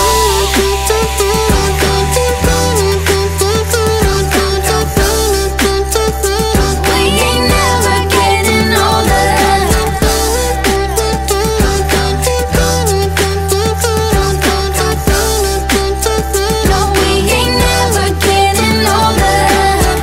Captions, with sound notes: (Beatboxing) We ain't ever getting older (Beatboxing) No, we ain't ever getting older